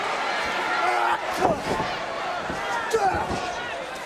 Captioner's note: audience cheering